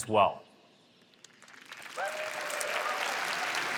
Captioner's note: applause